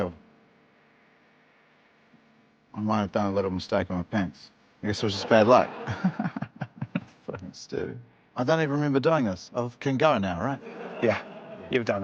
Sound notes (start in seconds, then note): 5.2 giggles; 8.1 mutters